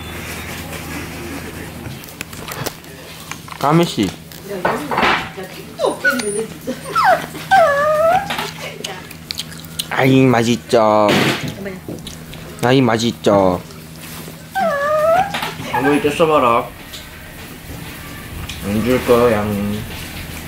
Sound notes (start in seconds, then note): 5.6 Kkami's groaning because he wants me to feed him